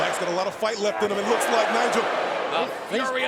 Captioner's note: crowd booing